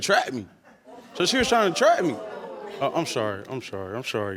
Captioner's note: audience exclaiming